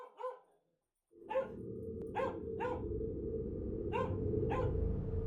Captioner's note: dog barking